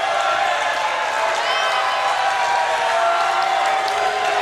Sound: cheers and boos

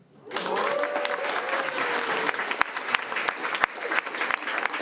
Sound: crowd cheering and clapping

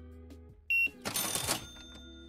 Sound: beeping; crashing

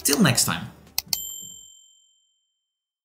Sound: bell dings

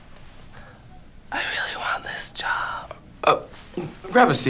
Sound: whispering

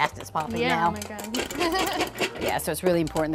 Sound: laughs

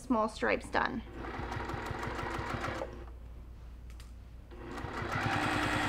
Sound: sewing machine noises

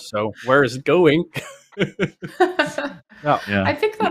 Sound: laughter

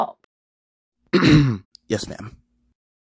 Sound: clears throat

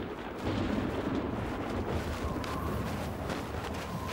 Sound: thunder rolling

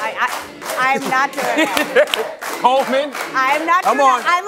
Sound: audience chanting

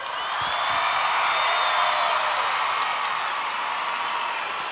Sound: audience cheers and applauds

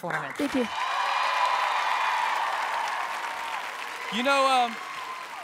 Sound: audience cheers

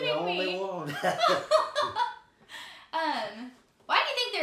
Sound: both laughing

